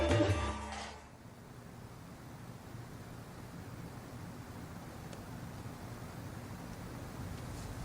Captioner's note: complete silence except for footsteps